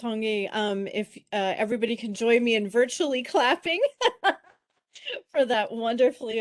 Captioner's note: laughs